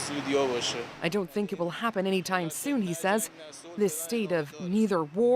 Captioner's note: speaking alternate language